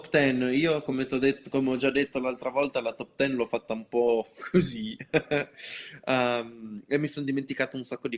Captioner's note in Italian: risate